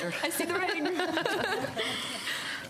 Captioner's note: laughter